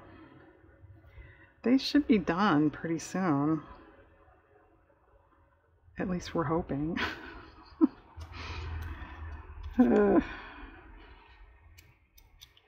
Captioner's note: laughs